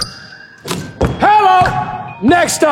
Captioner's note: dunk sound